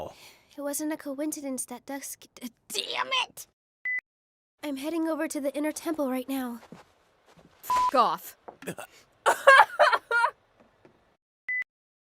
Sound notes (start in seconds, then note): 0.2 sigh; 8.6 gasp; 9.2 laugh/crying